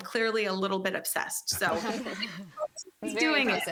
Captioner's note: faintly speaking